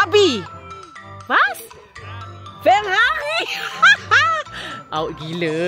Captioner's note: laugh